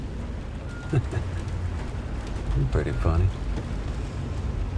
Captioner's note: laughs